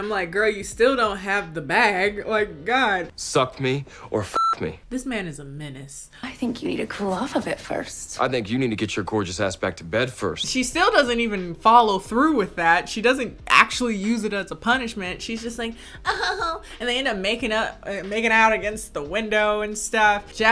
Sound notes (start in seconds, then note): 4.3 beep; 16.0 giggles